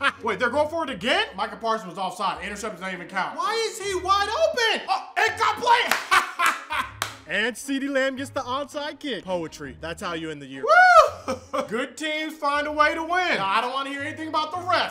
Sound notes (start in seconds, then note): 5.6 laughs and claps; 10.9 laughs